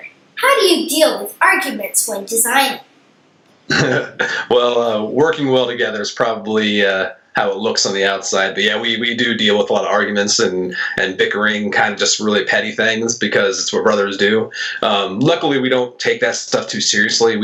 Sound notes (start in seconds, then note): 3.7 laughs